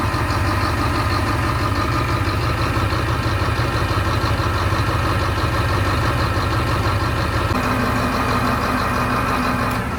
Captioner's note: engine noise